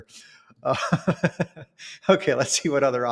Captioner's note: laughs